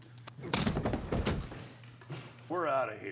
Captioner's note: fist thuds